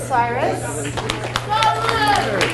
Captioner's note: people chattering; audience applauds